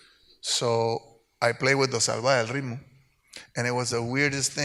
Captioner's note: speaks Spanish